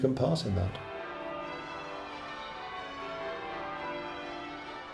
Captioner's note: bells tolling